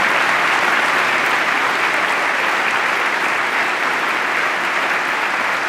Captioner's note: applause